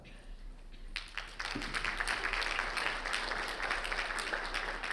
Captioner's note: audience clapping